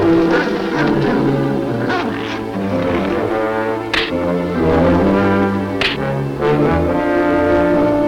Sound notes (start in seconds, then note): 4.1 fight Sounds